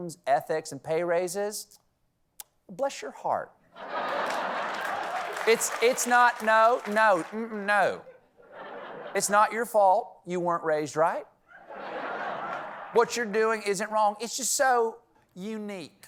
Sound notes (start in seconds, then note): 3.7 laughter; 4.0 applause